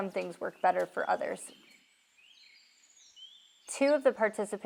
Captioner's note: birds chirping